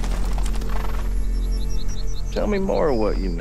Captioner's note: horse snorts